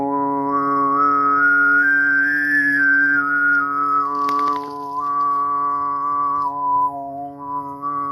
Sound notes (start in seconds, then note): 0.0 gentle music; 3.4 leaves rustling